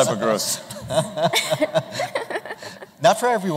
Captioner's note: laughter